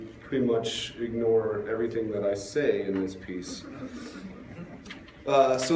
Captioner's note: laughter